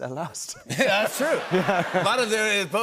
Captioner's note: laughter